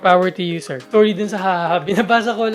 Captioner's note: giggles